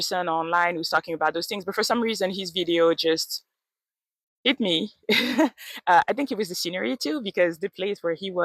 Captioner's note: laughs